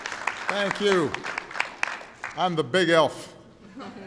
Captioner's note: applause